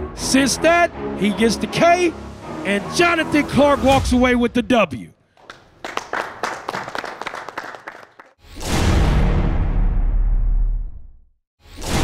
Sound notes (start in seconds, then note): 5.4 hands clapping; 8.5 dramatic music